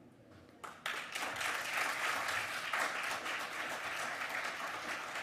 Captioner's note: audience applauding